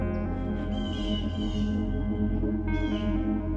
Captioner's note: crows chirping